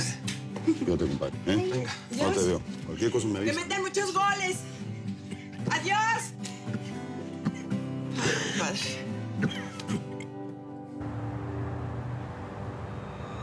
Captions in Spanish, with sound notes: - A VER, COMPADRE. - QUE DIOS TE ACOMPAÑE, ¿EH? - VENGA. - AHORA TE VEO. CUALQUIER COSA, ME AVISAS. - !QUE METAN MUCHOS GOLES! !ADIOS! [Dimas sigue tosiendo] AY, COMPADRE.